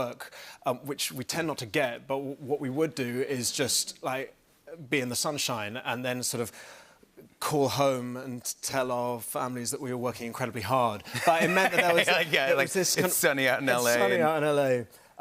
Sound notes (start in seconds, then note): 11.2 laughs